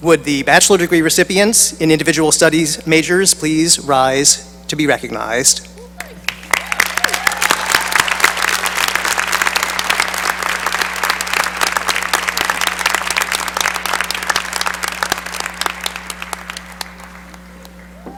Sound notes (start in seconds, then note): 6.2 cheering and applause